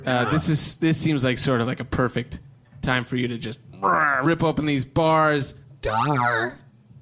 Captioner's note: imitates growling